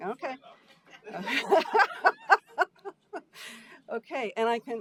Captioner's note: laughing